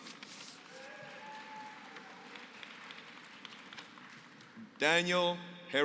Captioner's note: applause